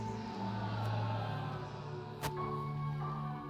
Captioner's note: all sigh